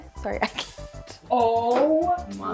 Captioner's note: laughing